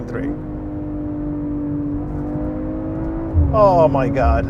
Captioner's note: engine sputtering